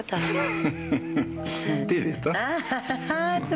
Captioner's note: Rires